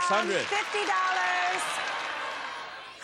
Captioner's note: applause